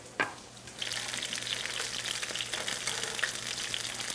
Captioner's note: oil sizzling